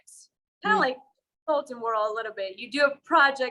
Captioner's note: voice fades away